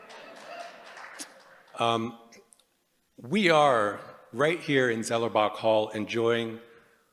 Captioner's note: applause